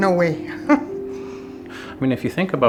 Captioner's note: chuckling